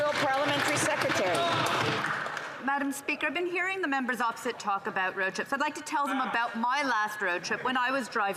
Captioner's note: applause